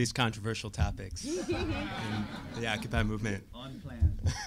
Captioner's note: audience laughing